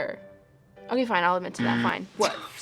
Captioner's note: buzzer rings